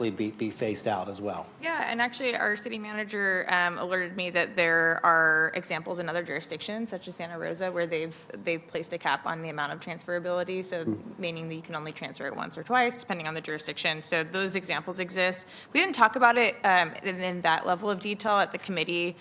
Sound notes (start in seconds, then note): none